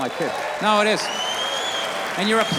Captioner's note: audience cheers